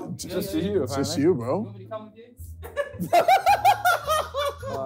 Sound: all laughing

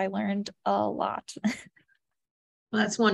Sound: laughter

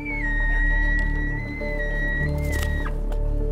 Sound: elk bugle

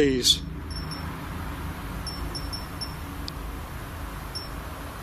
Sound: device beeps

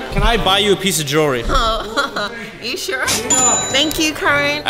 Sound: chuckles

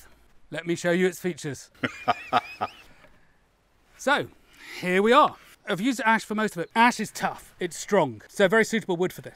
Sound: manic laugh

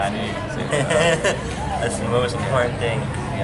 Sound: laughter

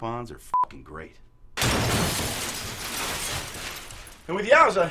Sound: sound of glass breaking

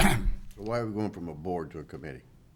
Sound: coughs

